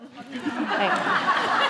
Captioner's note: laughter